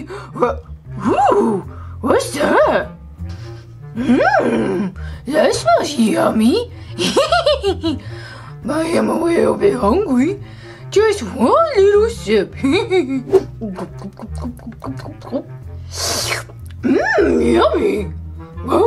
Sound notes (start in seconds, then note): 7.0 hee hee hee hee; 13.2 gulp; 15.8 slurp